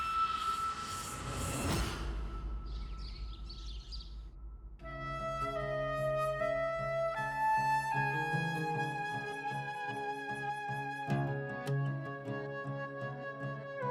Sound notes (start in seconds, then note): 2.6 birds chirping; 4.8 gloomy music playing